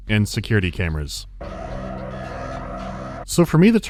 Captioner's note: security alarm